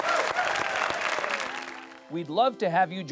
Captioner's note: audience cheering